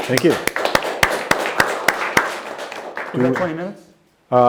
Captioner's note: applause